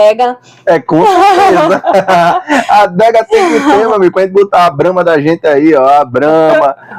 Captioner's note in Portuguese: risadas